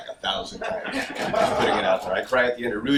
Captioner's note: audience laughs